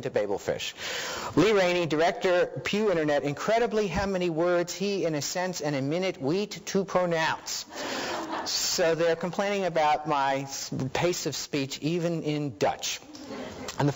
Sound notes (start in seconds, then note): 7.7 audience laughing; 13.1 audience laughing